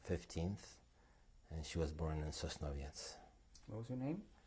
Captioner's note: non-english